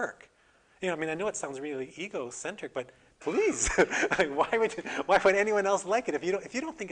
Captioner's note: laughter